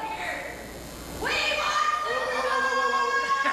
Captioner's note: yells